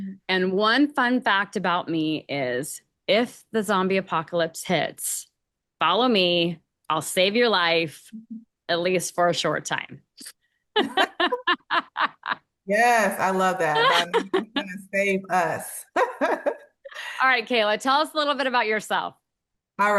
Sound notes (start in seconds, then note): 10.7 both laughing